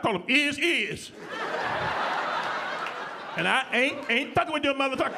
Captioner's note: audience laughing